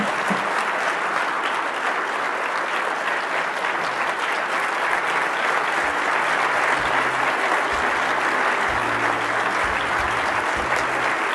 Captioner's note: applause